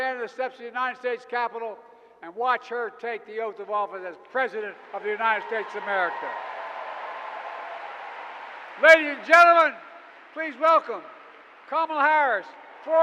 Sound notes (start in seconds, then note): 7.1 applause